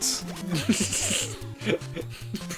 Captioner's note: giggling